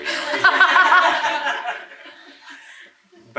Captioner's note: laughing